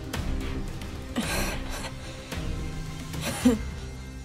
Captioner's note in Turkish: Öksürüyor